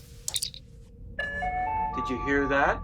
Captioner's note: communicator chirp; P.A. tone